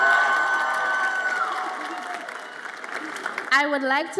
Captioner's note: audience applauds and cheers